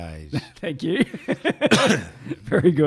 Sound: chuckling

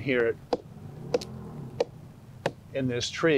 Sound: mallet tapping

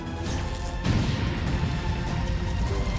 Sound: explosion

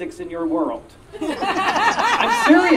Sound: audience Laughing

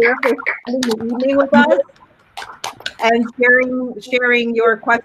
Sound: audio cutting out

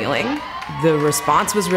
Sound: cheers and clapping

